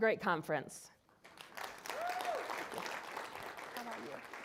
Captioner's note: applause